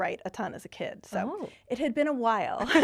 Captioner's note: laughing